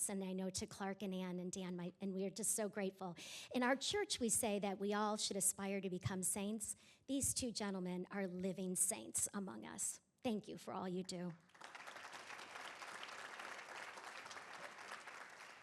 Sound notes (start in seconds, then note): 11.5 audience applauding